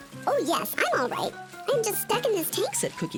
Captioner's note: high-pitched Voice